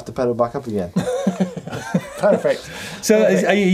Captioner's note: laughing